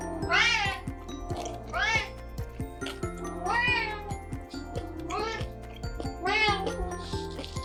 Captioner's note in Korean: 고양이 우는 소리